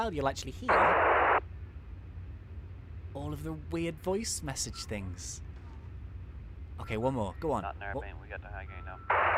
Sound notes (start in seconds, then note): 0.7 radio buzzing